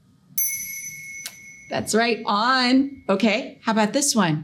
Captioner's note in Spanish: sonido de campana